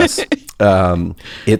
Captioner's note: laughs